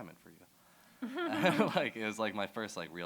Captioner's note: laughter